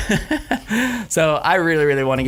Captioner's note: laughing